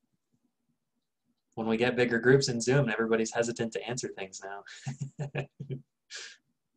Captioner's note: chuckle